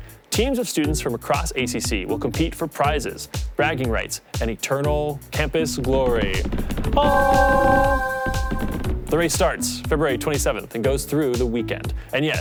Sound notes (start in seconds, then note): 7.0 halo chiming